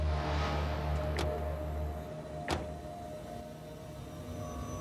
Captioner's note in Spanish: ruido al cerrar las puertas